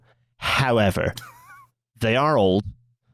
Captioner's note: scoffs